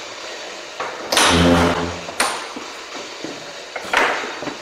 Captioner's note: door opening